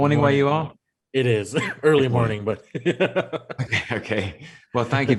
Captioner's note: man laughing